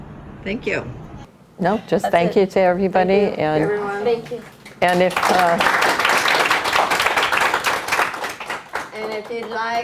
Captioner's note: clapping